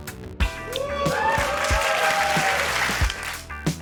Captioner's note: cheering, applause